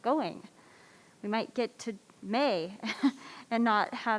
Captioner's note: laughs